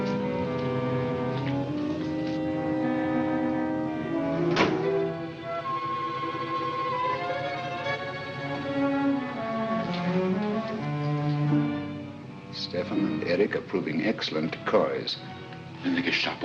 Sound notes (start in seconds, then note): 4.4 car door closes; 6.6 suspenseful music